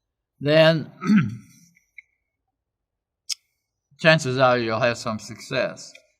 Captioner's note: cough